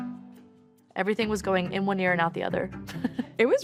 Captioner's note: chuckles